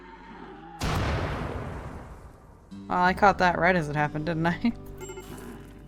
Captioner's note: laughs